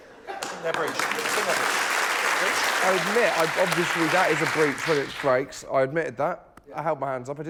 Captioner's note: laughter